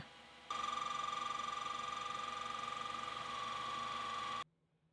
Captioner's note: machinery whirring